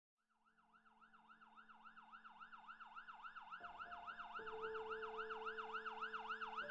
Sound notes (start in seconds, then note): 0.7 police sirens blaring; 0.7 soft piano music